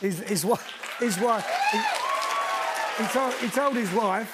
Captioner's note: cheers and applause